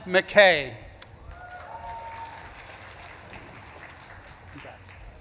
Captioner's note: audience claps and cheers